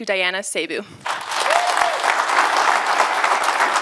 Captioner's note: applause